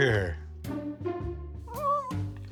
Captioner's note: dog whines